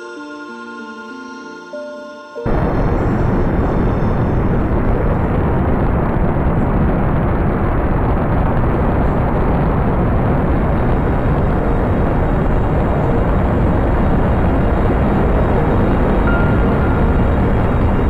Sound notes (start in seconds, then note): 8.3 engine sound